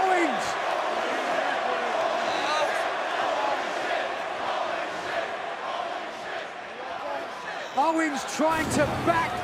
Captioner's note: crowd cheering